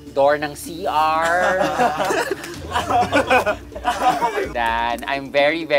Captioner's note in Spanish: campistas riendo